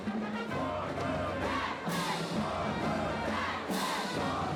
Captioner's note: chanting